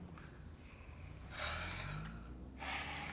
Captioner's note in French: Soupir